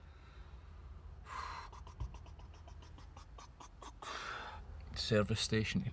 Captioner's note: exhales